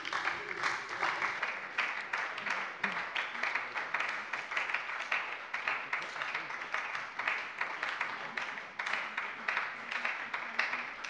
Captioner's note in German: Beifall bei der SPD